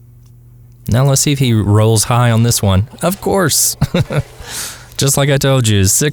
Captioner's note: haha